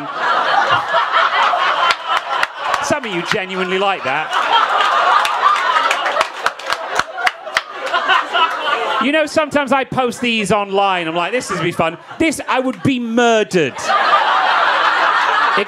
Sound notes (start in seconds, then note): 0.2 audience laughing; 4.5 audience applauding and laughing; 13.9 audience laughing